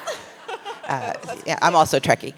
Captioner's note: laughs